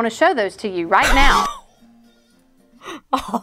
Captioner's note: laughs